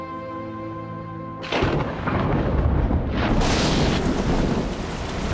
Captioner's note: thunder